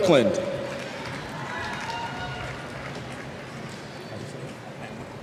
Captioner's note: cheers